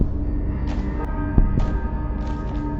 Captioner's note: heartbeat; ba-bum